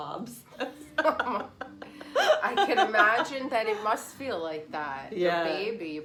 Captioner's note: laughs